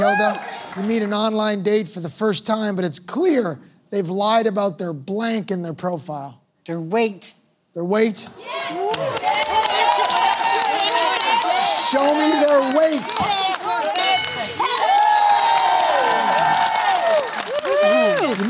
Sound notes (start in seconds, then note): 7.7 cheering; 14.0 bell dings; 14.9 cheering